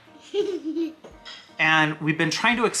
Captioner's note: laughs